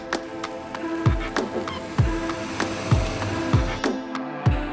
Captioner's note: car engine